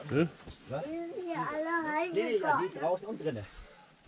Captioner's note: chatter